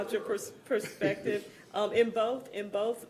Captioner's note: laughter